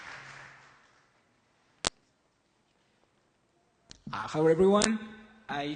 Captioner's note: applause; silence